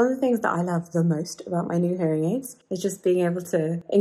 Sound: none

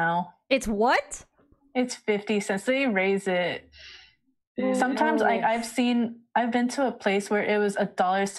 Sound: groan

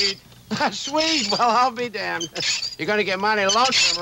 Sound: chuckles

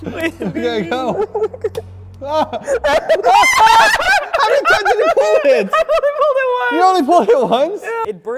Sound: pulls trigger and balloon pops; screaming

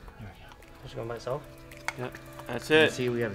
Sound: speaking faintly

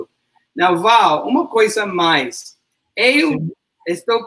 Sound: speaks portuguese

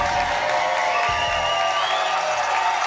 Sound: whoosh; applause and cheering cont

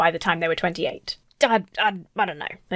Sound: stammers

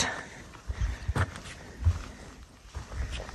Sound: sounds of footsteps

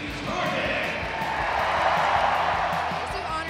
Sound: cheering

